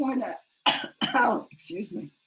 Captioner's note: coughs